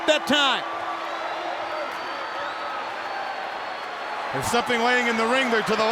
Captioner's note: crowd cheering